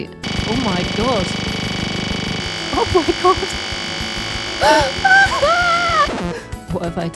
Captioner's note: screams